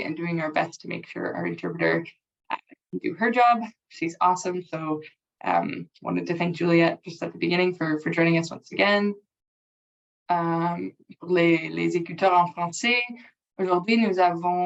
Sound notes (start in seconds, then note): 11.3 speaking french